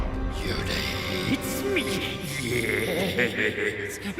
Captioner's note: laughs